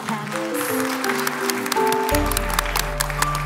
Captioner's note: applause